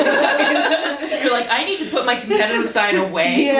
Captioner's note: laughter